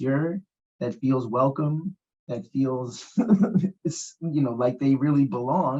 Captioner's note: laughs